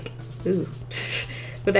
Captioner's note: laughs